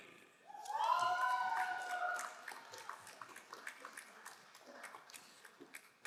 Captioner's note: crowd cheering and applauding